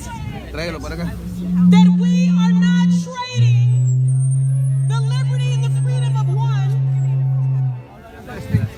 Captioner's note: microphone feedback